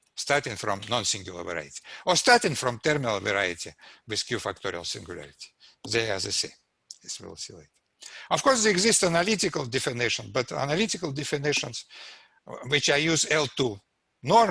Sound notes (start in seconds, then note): none